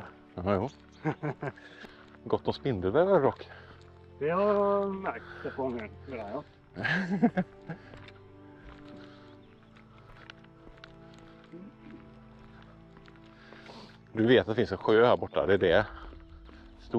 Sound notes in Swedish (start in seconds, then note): 6.7 Skratt